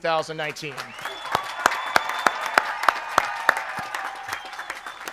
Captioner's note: audience applauds